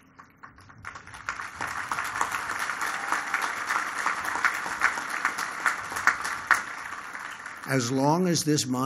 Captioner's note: applause